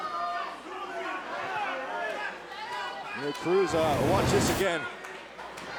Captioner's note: crowd chatter